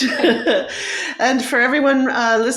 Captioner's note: chuckle